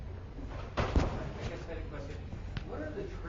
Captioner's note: door slams